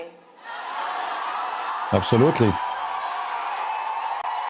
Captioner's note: Tepuk tangan